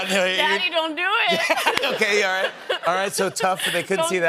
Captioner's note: laughter